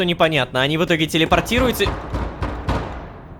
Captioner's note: knock on the door